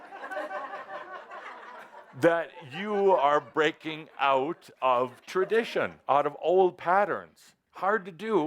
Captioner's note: some laughter